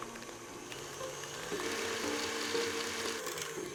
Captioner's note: mixer whirring